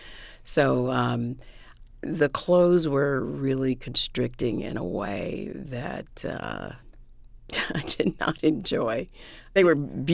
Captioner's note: laughter